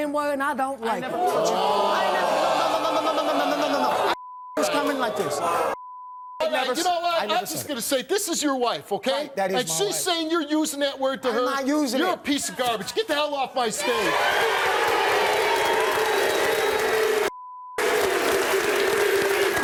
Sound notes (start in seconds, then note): 13.8 cheering